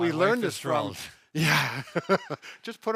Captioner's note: laughs